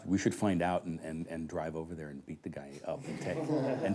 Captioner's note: men Laughing